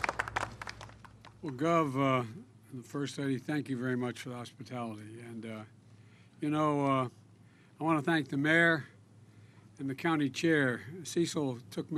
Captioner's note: applause